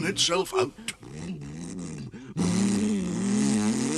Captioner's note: Toad makes car noises